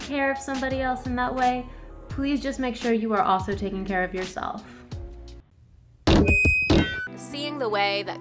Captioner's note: mic drop